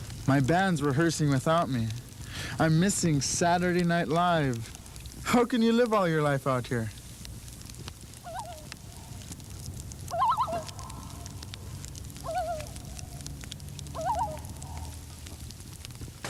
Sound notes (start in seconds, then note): 7.9 loon calling